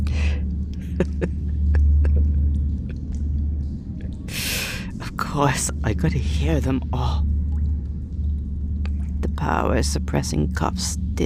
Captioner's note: angry, bitter laugh